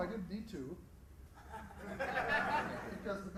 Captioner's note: laughter